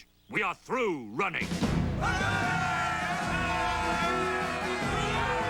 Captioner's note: all cheer, applaud